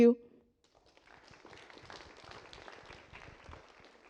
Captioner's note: applause